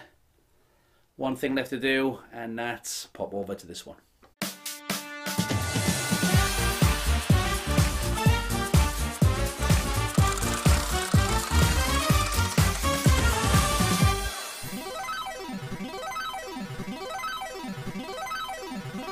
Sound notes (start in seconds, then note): 4.1 upbeat music; 9.6 wheel spinning; 14.5 upbeat video game music